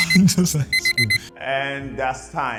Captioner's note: laughs